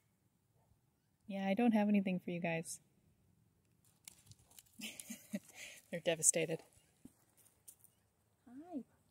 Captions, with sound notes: yeah I don't have anything for you guys [chuckles] they're devastated